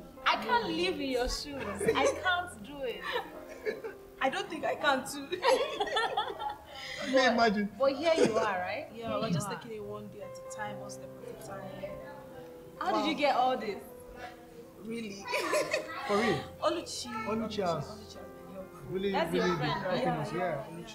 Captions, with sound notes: I can’t leave here soon. I can’t do it. I don’t think I can too. [Laughter] May I imagine. But here you are, right? Yeah, I was just taking it one day at a time. How did you get all these? Really? [Laughs] For real. Oluchi… Oluchi has really, really been helping us.